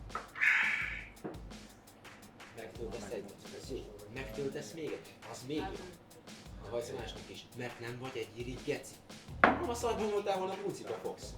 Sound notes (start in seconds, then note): 2.9 distinctive conversation